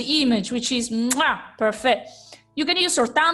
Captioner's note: kiss